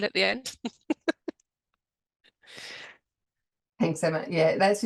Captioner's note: chuckling